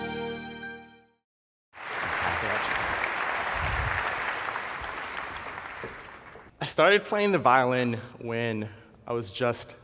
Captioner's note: applause